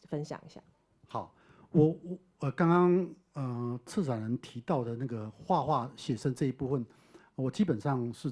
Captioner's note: Mandarin